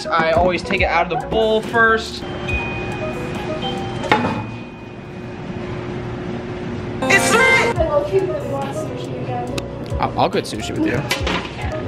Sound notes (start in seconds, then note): 2.2 bell ringing